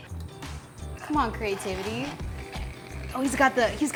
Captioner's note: dispenser hisses